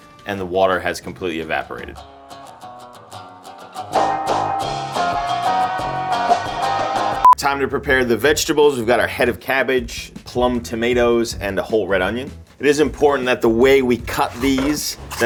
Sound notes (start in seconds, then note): 2.0 upbeat guitar music; 7.2 note beeps